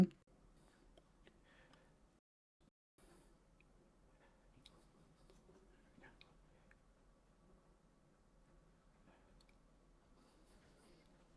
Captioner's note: silence